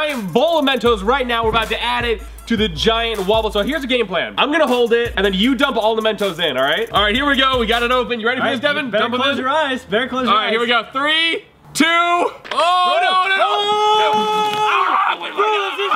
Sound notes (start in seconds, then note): 12.5 exclaiming